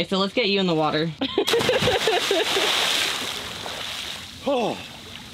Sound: water splashing; laughing; groaning

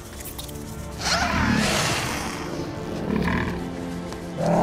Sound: roaring

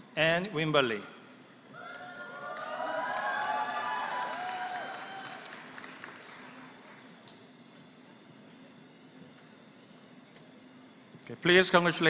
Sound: applause

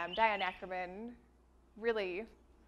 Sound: none

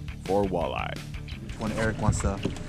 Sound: boat engine idling

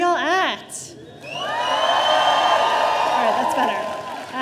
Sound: audience cheering

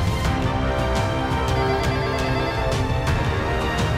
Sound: phone ringing

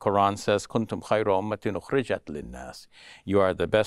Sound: speaks Arabic

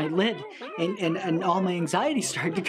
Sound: critters yelling and mumbling

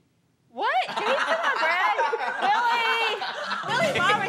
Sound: laughter

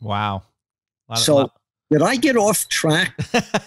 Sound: laughs

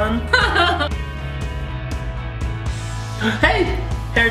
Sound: woman laughs

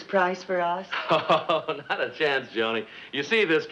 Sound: Brad laughs

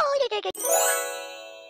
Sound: sound of magic

